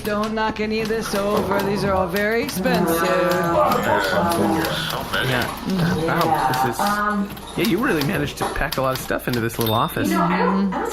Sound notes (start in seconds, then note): 3.2 typewriter sounds